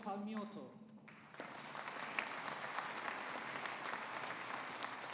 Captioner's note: audience applauding